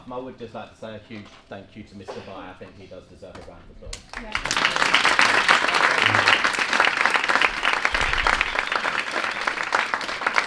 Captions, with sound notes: I would just like to say a huge thank you to Mr Bye, I think he does deserve a round of applause. [APPLAUSE]